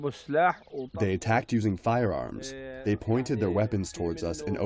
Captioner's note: through translator